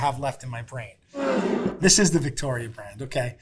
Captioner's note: jar scraping